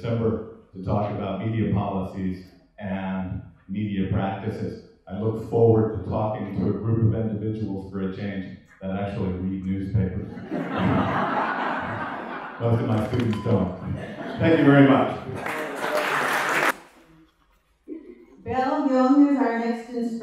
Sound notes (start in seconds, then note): 10.2 laughter; 15.2 applause